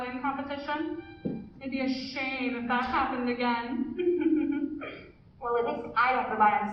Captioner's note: laughs pettily